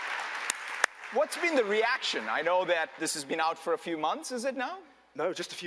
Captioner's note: applause